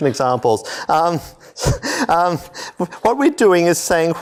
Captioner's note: laughter